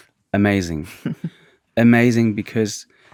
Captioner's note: laughing